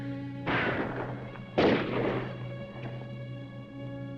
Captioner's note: guns firing; dramatic music